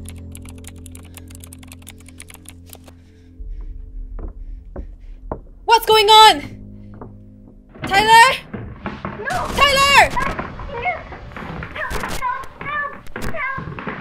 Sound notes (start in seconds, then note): 3.4 footsteps; 9.3 shouts